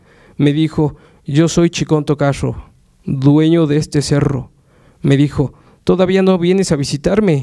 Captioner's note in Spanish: habla en mazateco